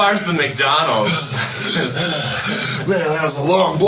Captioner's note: laughs; pretends to breath heavily; with fake labored breathing